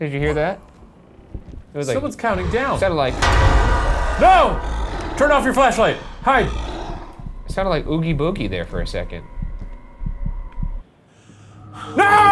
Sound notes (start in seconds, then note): 3.8 monstrous growling